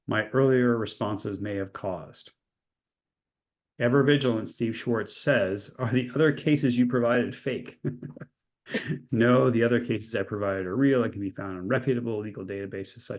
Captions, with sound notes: my earlier responses may have caused." Ever vigilant, Steve Schwartz says, "Are the other cases you provided fake?" (chuckles) "No, the other cases I provided are real. It can be found on reputable legal databases